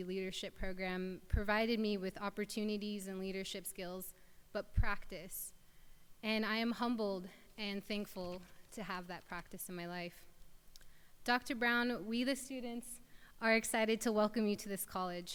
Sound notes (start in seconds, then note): none